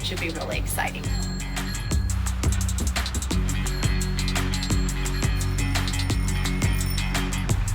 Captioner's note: upbeat music; bell ringing